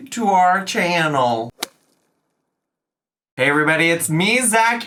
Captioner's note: golf club strikes